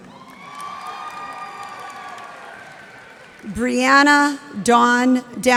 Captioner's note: cheers and applause